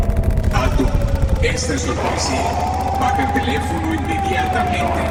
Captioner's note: man speaking foreign language